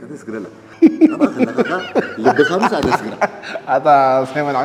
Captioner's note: laughs